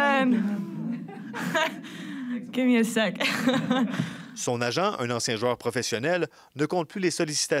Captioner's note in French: rire